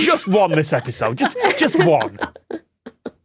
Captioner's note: laugh